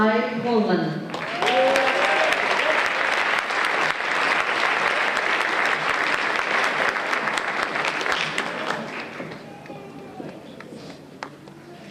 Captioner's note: applause